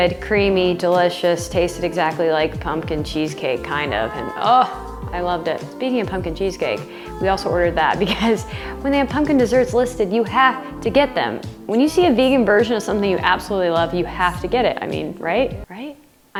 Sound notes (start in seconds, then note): 8.0 laughs